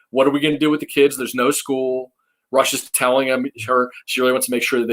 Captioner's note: faintly speaking